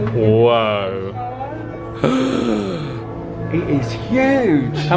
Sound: gasps

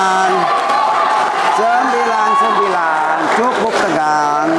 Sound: applause

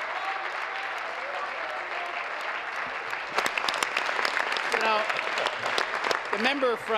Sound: cheering; applause; continued applause

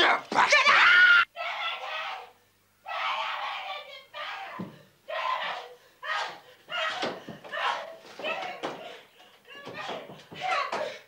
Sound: Sandra screams

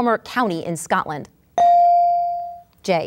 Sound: ding

